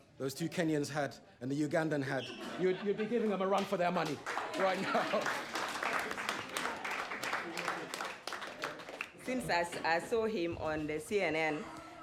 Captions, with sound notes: those two Kenyans had, and the Ugandan had, you'd-you'd be giving them a run for their money. Right now. [chuckles] [applause] Since I-I saw him on the CNN,